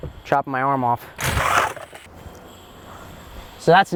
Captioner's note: impact drill buzzing softly